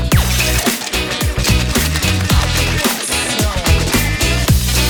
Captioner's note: ice rattling